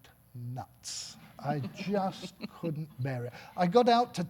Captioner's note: audience laughing